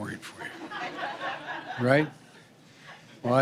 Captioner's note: laughter